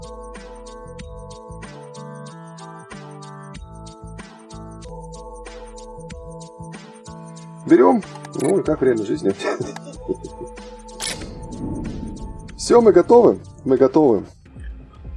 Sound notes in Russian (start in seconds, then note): 9.4 смех